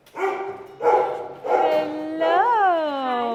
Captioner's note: dog barking